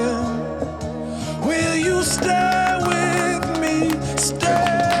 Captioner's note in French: le groupe applaudit